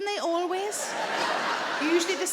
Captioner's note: audience laughing